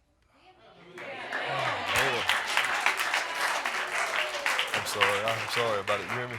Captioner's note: audience applauding